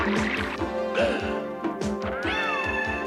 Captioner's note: gasps